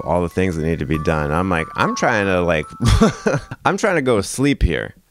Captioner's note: laughs